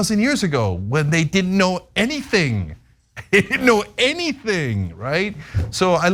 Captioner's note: laugh